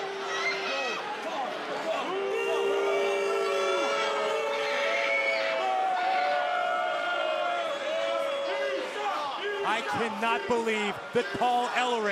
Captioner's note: crowd chatter